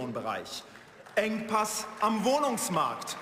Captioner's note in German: Beifall